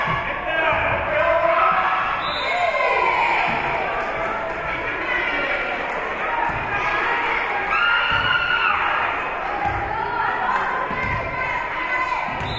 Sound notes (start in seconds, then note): 2.2 whistle being blown; 2.6 spectators cheering and applauding; 9.5 spectators shouting encouragements